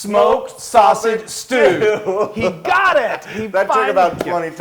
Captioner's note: laugh